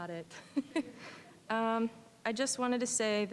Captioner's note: chuckling